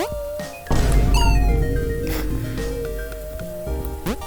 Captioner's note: boom